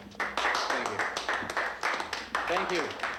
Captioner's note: crowd applauding